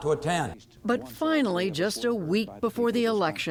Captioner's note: voice-over